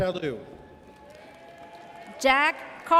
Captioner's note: audience cheers